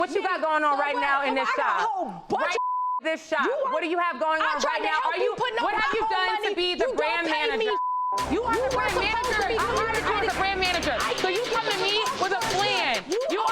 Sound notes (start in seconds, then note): 3.3 beeps; 8.1 both of them chattering